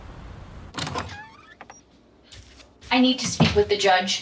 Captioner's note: door creaking